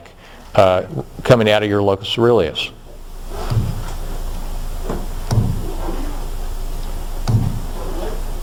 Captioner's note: tap tap tap